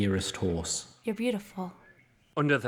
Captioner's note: quietly, to the horse